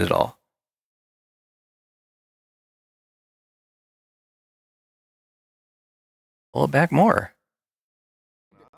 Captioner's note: silence as I try to find a different control